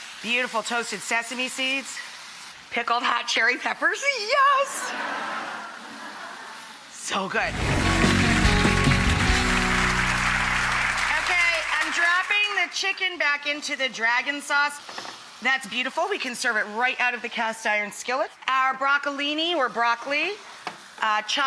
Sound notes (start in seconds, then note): 4.8 audience laughing; 7.4 upbeat music